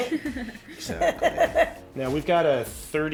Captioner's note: laughs loudly